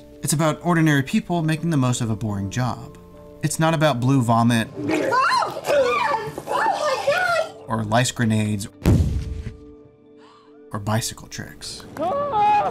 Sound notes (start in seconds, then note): 4.8 vomits; 11.9 yells; 11.9 screaming